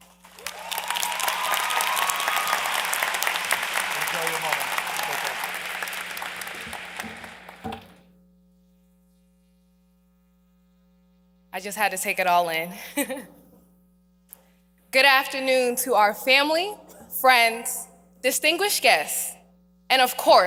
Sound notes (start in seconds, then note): 5.6 applause